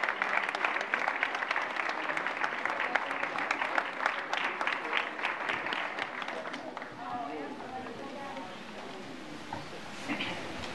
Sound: applause

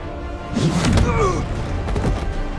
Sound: grunts

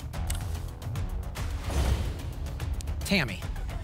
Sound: thump; whoosh

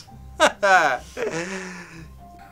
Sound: ha ha

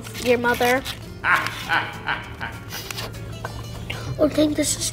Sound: narrator laughs

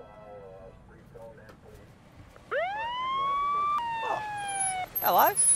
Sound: police siren

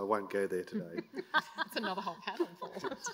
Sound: laughter

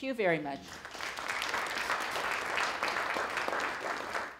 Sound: applause

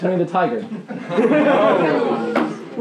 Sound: laughing

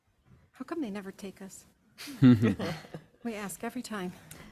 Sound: group laughs

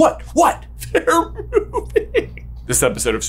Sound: weepy

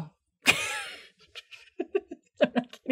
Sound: laughs

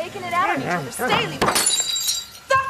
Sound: whining

